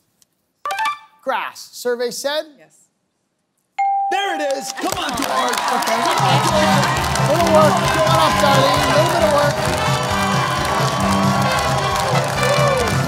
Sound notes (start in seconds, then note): 3.8 bell dings; 6.5 applause